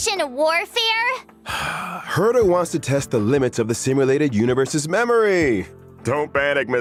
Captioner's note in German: seufz